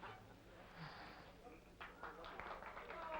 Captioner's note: Jane sighs; applause faintly heard